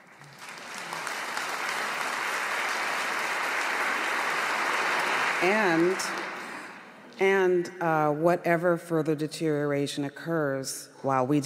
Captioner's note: applause